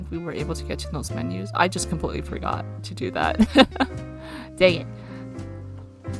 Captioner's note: laughs